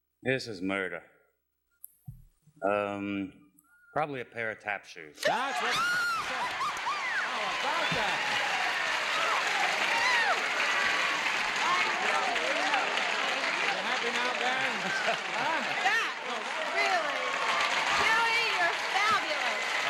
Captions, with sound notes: -This is murder. Probably a pair of tap shoes. [applause] -[screaming] -That's what--how about that? You happy now, then? Huh? -Yes, really. Really, you're fabulous.